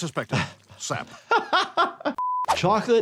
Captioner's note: laughing